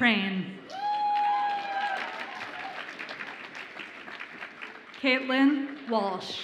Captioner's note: audience applauds and cheers